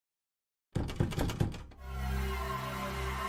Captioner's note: shaking the door